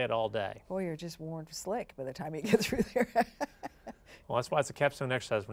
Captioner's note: laughs